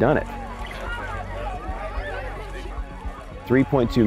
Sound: loud chattering

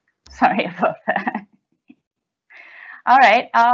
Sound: chuckling

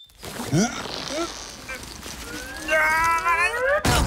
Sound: backpack creaking; duo grunting; Duo groans

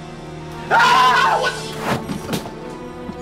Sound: screams

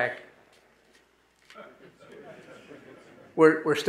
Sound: audience laughing

